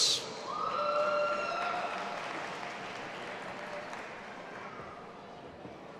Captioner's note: audience applauding and cheering